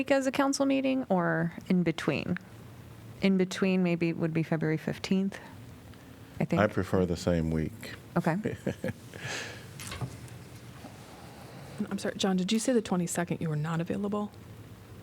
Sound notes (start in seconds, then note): 8.4 laughter